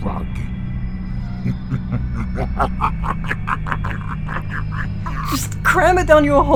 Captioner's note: The Yellow Rabbit sinisterly chuckles